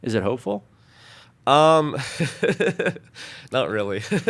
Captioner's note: laughing